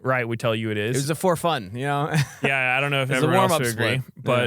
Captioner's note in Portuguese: risos